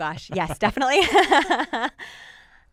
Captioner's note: laughing